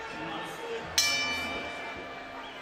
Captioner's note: bell dings